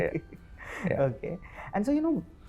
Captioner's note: laughs